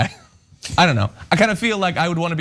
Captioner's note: laugh